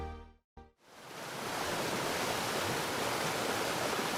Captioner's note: water flowing